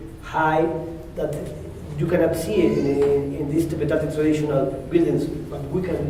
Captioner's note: spanish